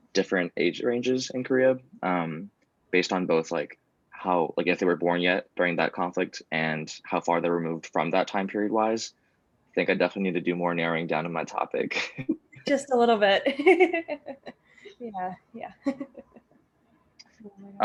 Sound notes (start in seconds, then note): 11.8 laughs